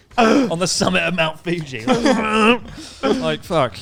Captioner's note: laughing loudly; groaning loudly